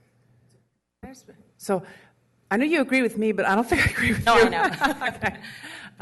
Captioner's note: laughter